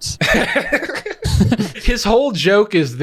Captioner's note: group laughs